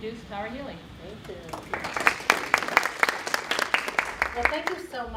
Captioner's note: applause